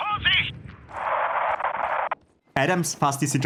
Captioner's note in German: Statisches Rauschen